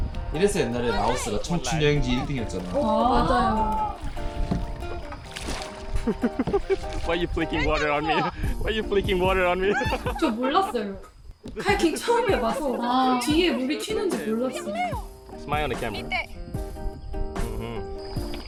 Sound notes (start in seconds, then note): 4.8 splashing water everywhere